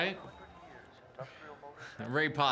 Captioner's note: group chattering